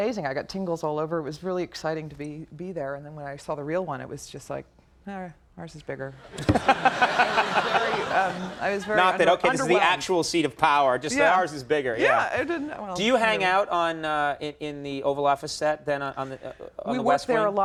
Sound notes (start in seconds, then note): 6.3 audience laughing